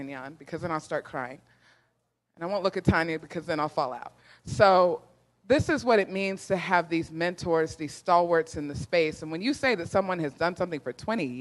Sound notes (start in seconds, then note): none